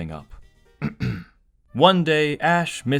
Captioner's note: ahem